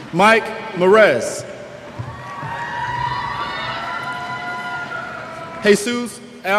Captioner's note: cheers